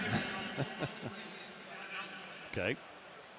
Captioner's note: referee call